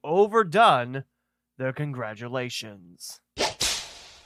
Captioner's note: whip noise